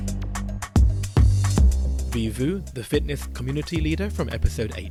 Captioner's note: voiceover